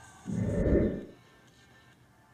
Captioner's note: woosh